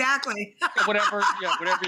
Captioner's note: laughs